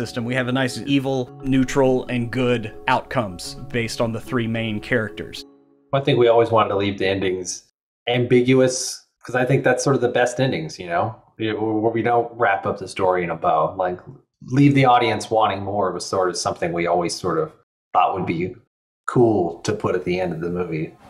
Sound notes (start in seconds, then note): none